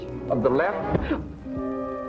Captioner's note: gasp